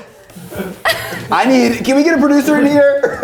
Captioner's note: crew laughs